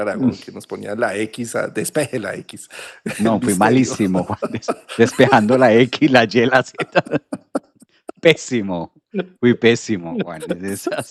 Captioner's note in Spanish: risas; risas